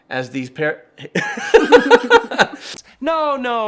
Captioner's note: laughing